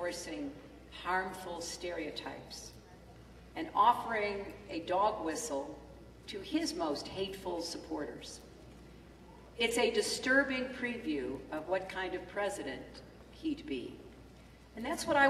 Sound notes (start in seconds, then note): none